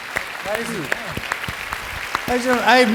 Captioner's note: applause